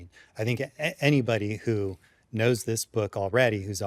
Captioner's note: none